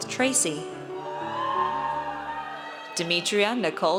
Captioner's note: audience cheers